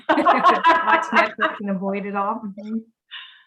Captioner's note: woman laughs; woman chattering